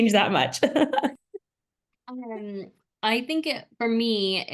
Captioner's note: laughter